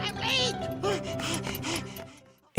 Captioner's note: panting